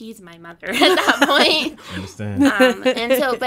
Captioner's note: laughing